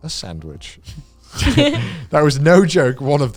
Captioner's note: laughs